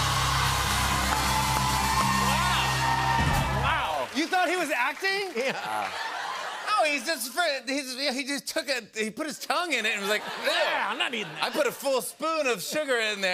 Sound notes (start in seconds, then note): 5.3 laughing; 5.3 laughter